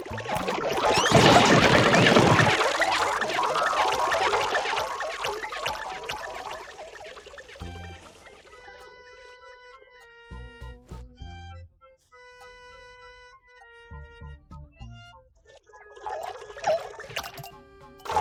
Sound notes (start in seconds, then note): 2.0 gloinks boinging, squeaking